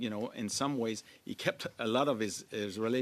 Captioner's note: speaking French